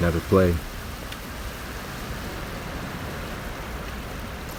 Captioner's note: wind rushing